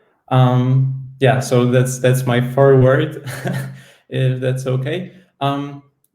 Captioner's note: laughs